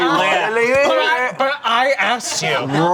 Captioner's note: group chattering indistinctly